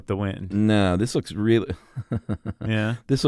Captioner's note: laughs